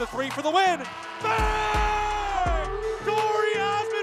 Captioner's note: male announcer screams